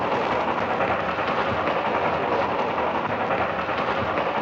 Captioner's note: none